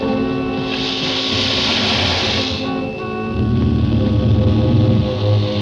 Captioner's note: alligator hissing